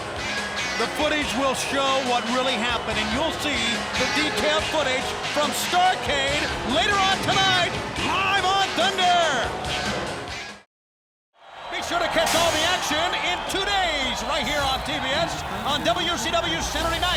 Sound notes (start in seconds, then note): 11.4 crowd cheering